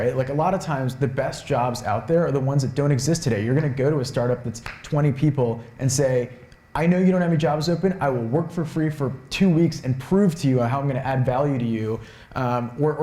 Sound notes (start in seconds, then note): none